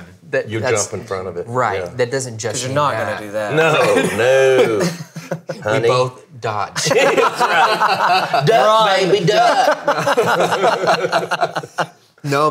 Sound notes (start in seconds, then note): 3.7 laughing; 6.8 all laughing; 9.3 laughing